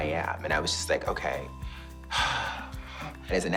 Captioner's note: exhales with relief